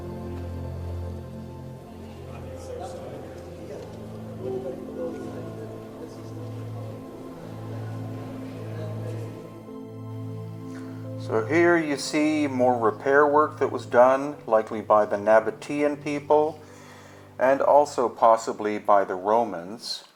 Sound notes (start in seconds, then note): 0.0 gentle music continues; 0.0 tourists chattering; 4.6 gentle music continues; 4.6 tourists chattering